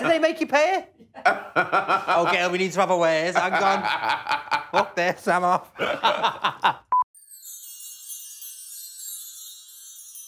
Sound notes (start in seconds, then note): 1.0 laughing; 5.7 laughing; 7.1 twinkling music